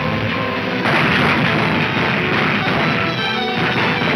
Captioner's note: gunshots banging